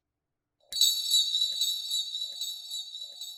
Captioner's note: mysterious jangling